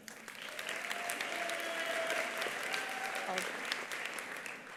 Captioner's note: attendees applauding; attendees cheering